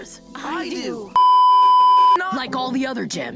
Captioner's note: beeeeeep